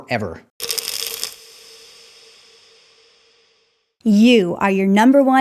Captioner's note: pills rattling